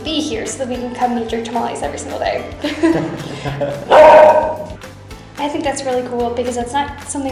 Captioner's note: laughter